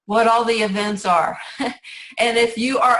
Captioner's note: laughs